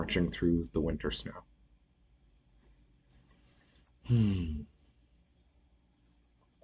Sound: sigh

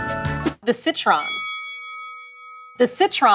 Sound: bell dings

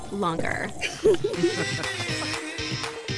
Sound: people laughing

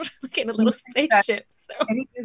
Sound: laughs

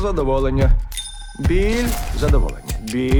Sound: clinks

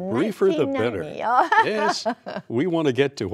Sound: laughter

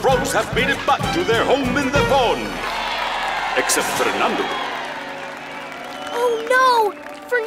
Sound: cheering

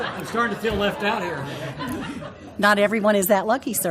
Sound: laugh

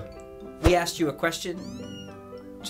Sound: cat mews

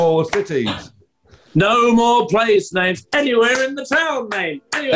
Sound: claps in time

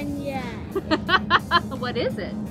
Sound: laughing

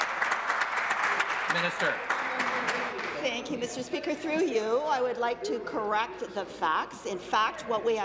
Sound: applause

